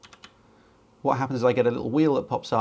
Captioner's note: key board clatters